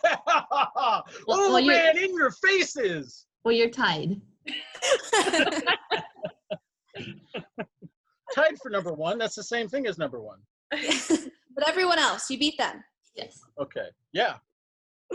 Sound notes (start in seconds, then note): 0.0 laughs; 4.7 all laugh; 10.7 women laugh